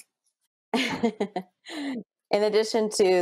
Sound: laughs

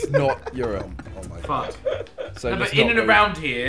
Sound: laughing

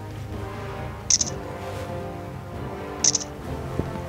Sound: camera snaps

